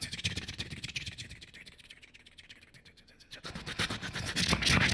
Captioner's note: beatboxing